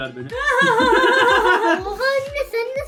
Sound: laughs

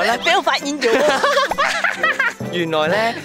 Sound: childish laughter

